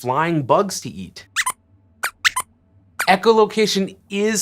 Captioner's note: squeaks squeaks